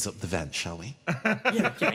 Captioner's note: laugh